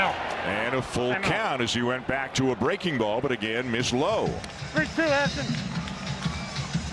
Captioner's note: cheering & plause